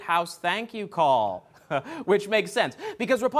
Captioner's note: chuckles